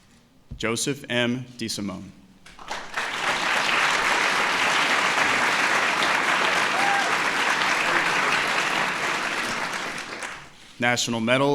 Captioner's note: applause